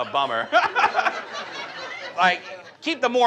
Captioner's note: audience laughs; laughs